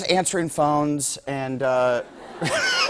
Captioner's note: laughter